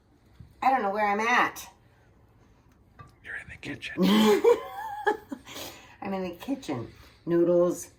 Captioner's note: laughing